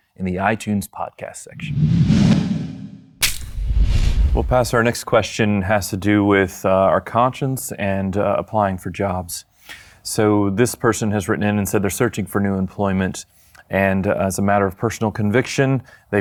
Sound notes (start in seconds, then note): 1.5 logo whooshes; 3.2 metal clacks